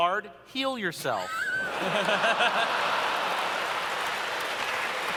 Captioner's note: laughter